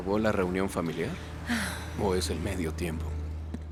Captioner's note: Esperanza suspira